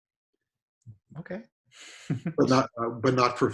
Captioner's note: chuckles